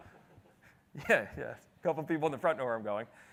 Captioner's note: chuckles